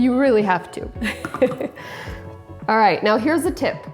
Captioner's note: laughing